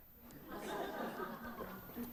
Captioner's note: laughter